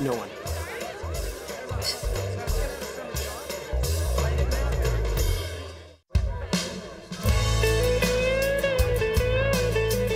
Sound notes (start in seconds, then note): 2.3 glasses clinking; 6.1 soft rock music